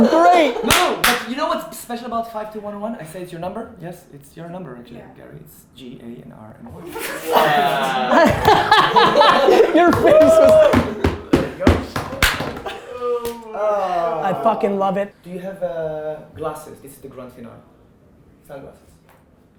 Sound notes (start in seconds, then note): 6.8 laughing; 10.8 laughing, group cheering